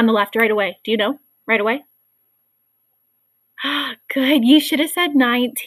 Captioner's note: sighs